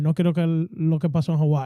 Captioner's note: speaking Foreign Language